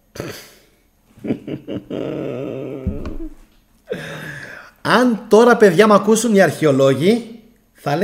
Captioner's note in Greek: γέλια